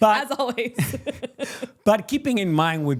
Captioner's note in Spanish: risas